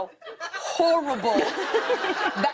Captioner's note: laughter